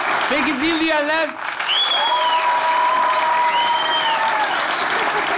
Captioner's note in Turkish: alkış ve ıslık sesleri